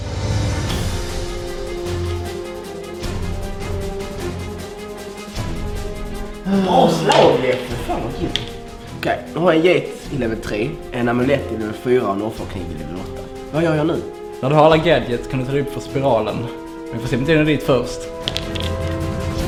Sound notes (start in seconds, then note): 6.4 apathetic sigh